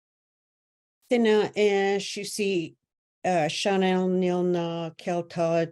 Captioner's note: speaks in native language